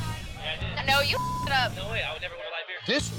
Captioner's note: beep